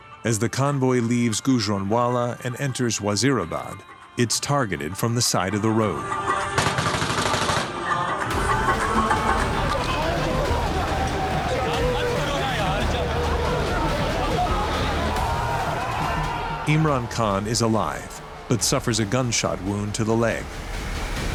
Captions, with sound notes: as the convoy leaves Gujranwala and enters Wazirabad, it's targeted from the side of the road. [gunshots firing] Imran Khan is alive but suffers a gunshot wound to the leg.